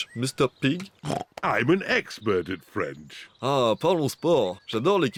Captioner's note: brays; speaks french